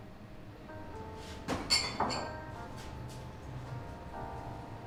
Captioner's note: glasses rattling